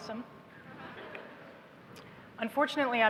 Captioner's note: laughter